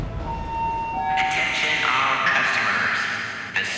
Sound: intercom beeping; intercom

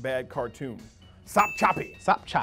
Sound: dinging

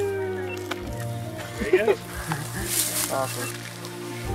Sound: cheering

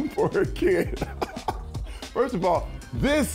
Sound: laughs

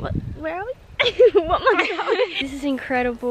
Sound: laughs

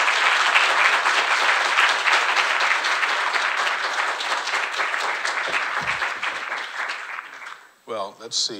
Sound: applause

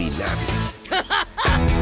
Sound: laughing

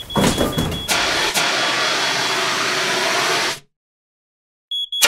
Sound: fire extinguisher spraying

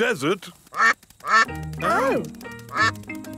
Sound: quacking

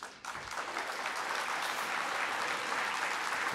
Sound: applause

